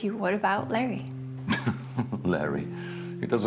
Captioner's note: Frank laughing